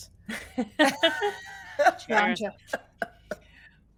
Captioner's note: group laughs